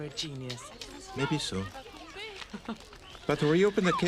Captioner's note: tertawa